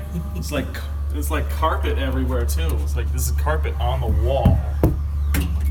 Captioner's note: hits Wall